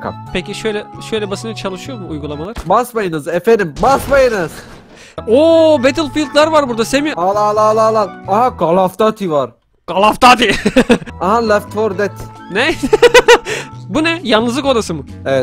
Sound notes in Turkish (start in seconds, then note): 2.6 Bağırarak; 10.4 Gülerek